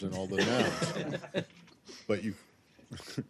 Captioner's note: laughter